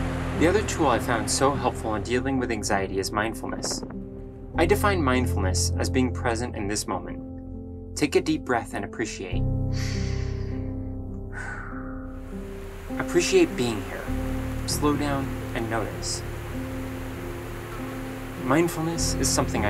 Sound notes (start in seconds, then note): 9.2 inhaling and exhaling